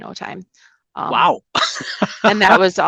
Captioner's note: laughs